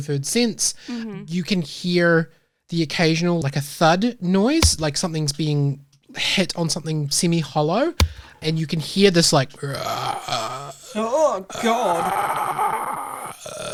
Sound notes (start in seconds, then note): 11.0 gurgling